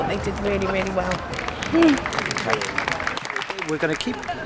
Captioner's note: clapping